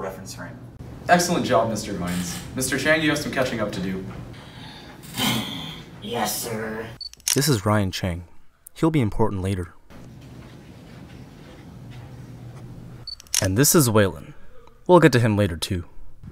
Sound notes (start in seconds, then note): 4.4 ryan expresses a deep sigh; 7.0 camera flash sound effect; 13.1 camera flash sound effect